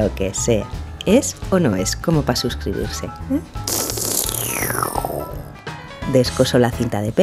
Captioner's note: sips coffee